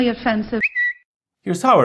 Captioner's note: twitter notification sound